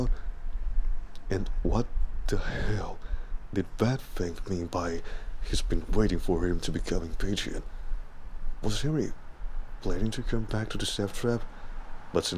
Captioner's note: shakily sighs